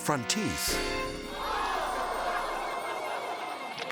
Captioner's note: crowd